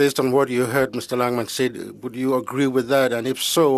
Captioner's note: speaking French